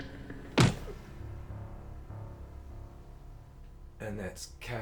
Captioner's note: punch thuds